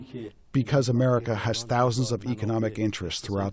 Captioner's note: through translator